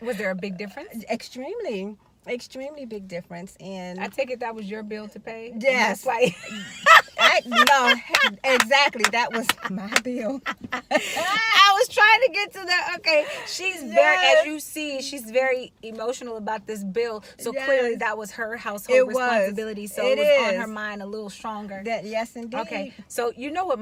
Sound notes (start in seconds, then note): 6.2 laughing